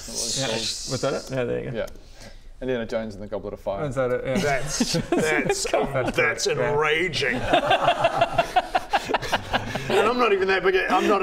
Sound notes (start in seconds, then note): 7.3 cheeky laugh